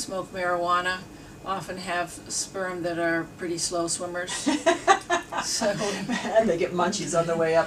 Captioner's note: laughs